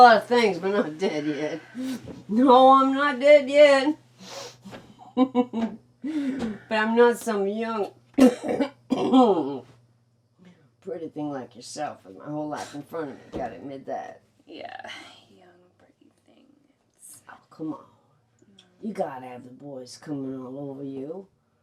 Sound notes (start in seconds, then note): 5.0 chuckles; 8.1 coughing